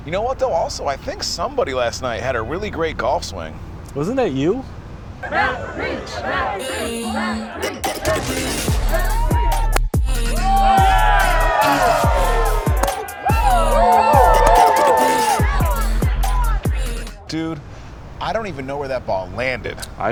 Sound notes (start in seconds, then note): 10.1 people cheering; 10.3 energetic music